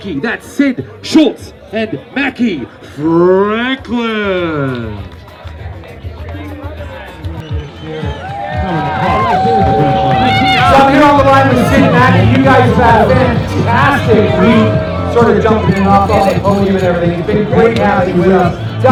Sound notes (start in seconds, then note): 8.6 crowd noise